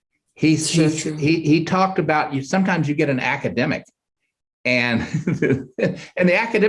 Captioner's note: chuckles